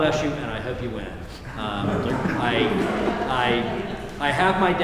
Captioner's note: laughter